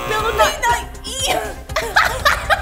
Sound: buzz; laughs

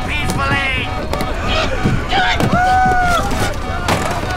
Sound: grunting

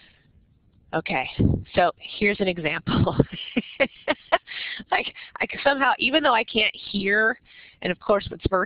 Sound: laughs

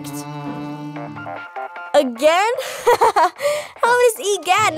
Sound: funky ringtone returns; giggling

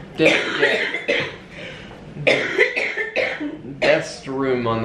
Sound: coughing

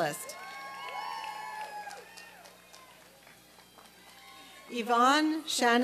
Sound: applause and cheering

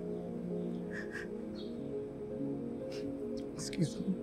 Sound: sobbing

